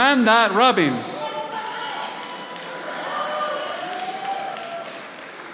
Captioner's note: audience applauding